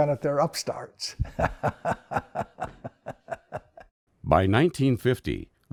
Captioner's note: laughs